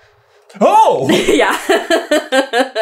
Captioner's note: laughter